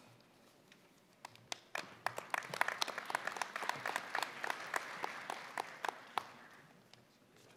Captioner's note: applause